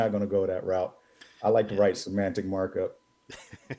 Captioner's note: laughing